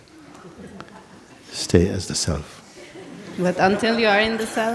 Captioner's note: laughter